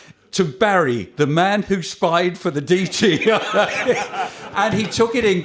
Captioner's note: laughter